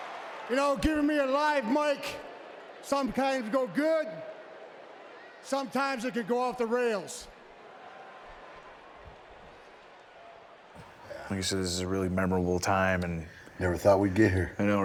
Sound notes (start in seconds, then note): 7.5 crowd chattering